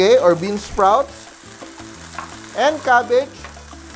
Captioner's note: sizzle